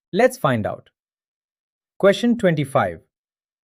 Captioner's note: pause